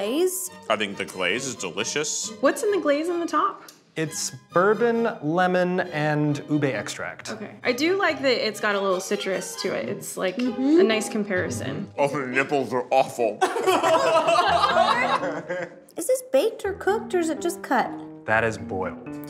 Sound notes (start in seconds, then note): 13.3 group laughs